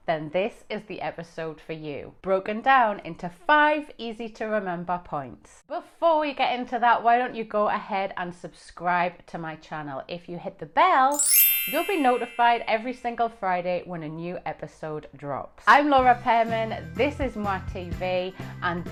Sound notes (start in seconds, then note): 11.1 bell chimes